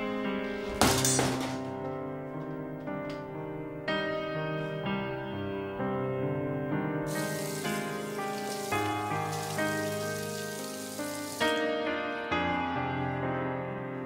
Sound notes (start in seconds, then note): 0.6 phone slams; 7.1 water splashing